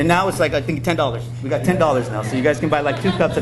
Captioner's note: audience laughing